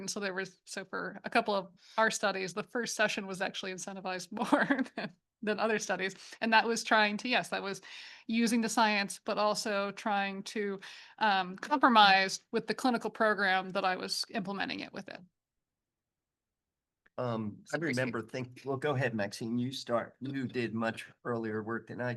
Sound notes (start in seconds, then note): 5.8 chuckles